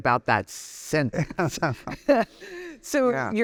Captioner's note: both laughing